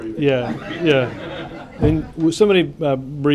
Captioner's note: laughter